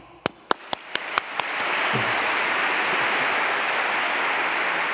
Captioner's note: applause